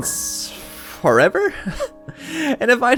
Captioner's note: chuckles